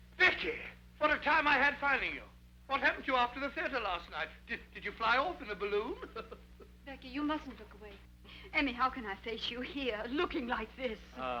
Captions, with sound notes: - Becky! What a time I had finding you. What happened to you after the theater last night? Did you fly off in a balloon? (chuckles) - Becky, you mustn't look away. - Amy, how can I face you here, looking like this?